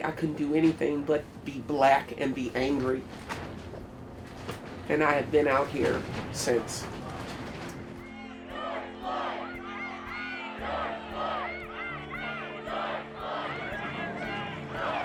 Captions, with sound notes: I couldn't do anything but be Black and be angry. And I have been out here since. - [Crowd] George Floyd! What's his name? George Floyd! What's his name! George Floyd!